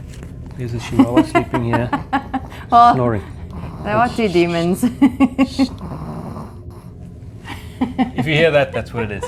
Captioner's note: laughs